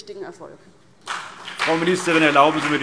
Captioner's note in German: Beifall CDU und BÜNDNIS 90/DIE GRÜNEN